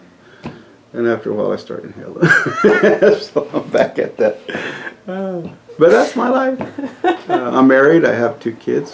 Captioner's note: laughs